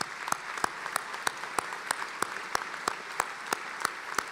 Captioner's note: applauding